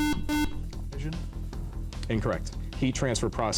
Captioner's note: buzzer